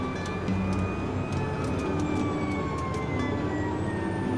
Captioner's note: sirens wailing